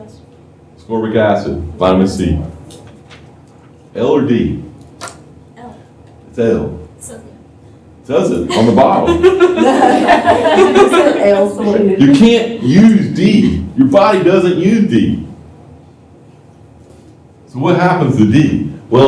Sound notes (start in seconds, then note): 8.5 laughter